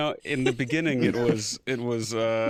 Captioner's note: laughter